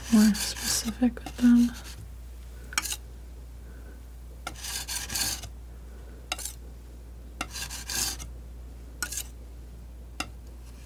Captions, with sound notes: more specific with them (scratching)